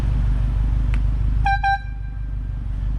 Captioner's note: airhorn